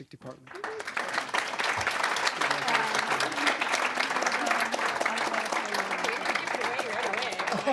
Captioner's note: applause